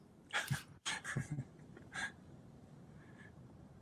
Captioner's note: laughing